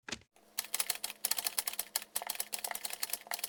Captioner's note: keys typing